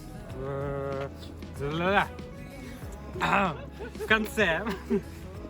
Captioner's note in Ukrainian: щось на криворізькому